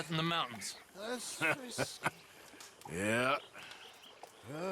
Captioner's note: laughs